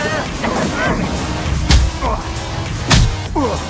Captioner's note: both grunting